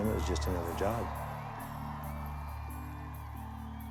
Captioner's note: audience Cheering